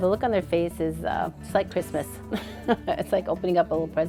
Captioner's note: laughs